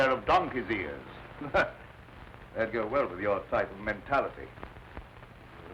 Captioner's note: laughs